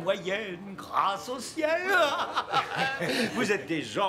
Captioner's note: laughing